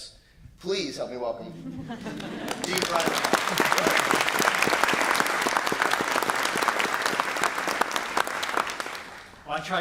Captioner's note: applause